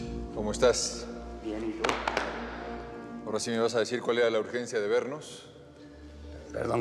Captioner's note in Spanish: Palmadas